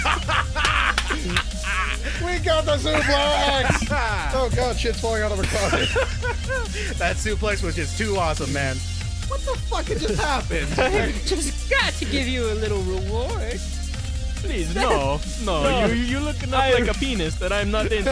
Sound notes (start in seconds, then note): 1.2 laughs; 5.4 laughs